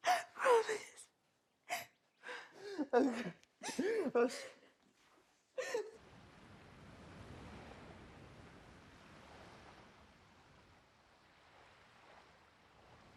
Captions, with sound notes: - Promise. - Okay. Okay. (both crying) (waves crashing)